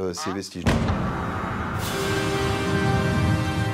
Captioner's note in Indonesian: bombing sounds